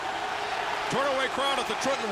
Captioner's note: crowd boos